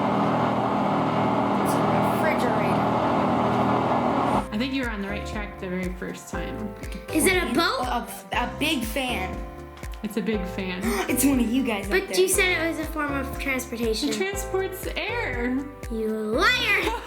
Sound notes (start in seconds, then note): 11.1 gasps